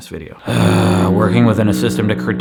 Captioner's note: fog horn blows